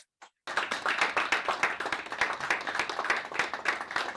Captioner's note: audience applauds